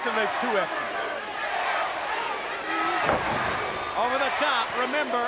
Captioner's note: crowd chatter